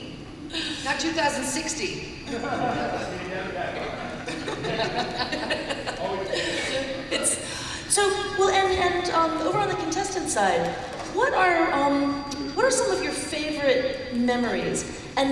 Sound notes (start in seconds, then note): 3.6 laughter